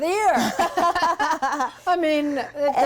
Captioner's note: laugh